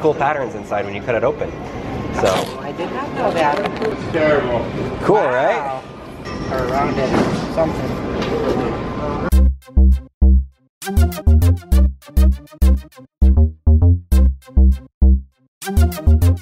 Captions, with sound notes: It makes cool patterns inside when you cut it open. - I did not know that. - [Voiceover] Cool, right? - Wow.